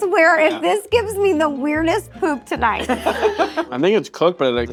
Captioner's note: playful music continues; all laughing